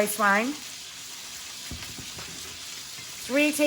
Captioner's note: oil sizzles in pan